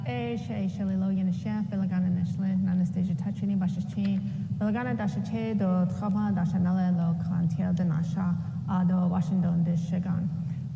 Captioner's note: speaking Native language